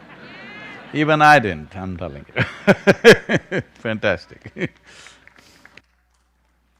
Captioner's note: laughs